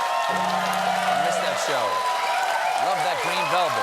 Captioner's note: cheers and applause